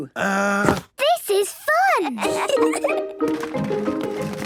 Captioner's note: kids giggling